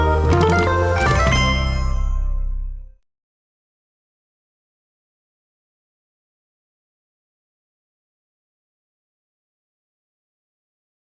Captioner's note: Mojang sound